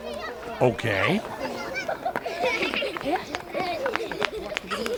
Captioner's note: children laughing and running